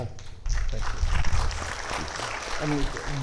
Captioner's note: audience applauding